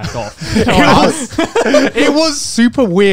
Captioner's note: both laugh